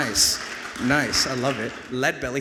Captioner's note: audience applauds